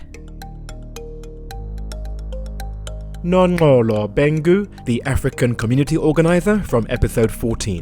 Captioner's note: voiceover